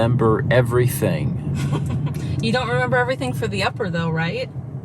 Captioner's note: laughing